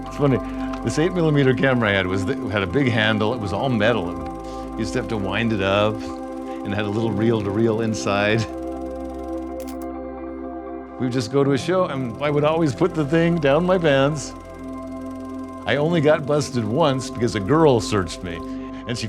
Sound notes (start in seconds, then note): 9.6 camera shutter snaps